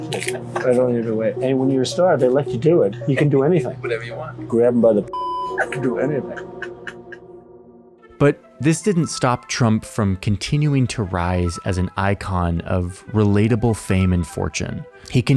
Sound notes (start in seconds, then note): 5.1 beep; 6.2 crew member laughing